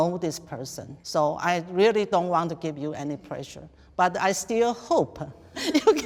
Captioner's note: laughs